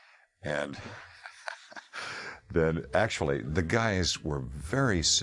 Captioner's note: laughing